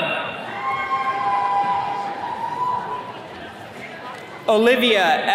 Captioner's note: attendees cheering